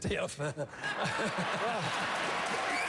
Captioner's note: applause